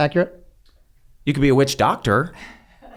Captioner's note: laughs